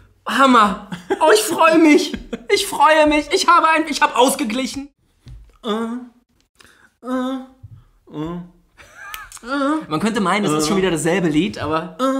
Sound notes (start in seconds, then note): 0.9 laughs; 5.5 hums